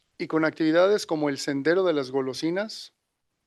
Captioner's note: non-english speech